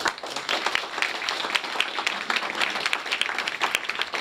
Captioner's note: applause